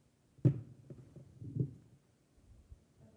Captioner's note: mic thuds softly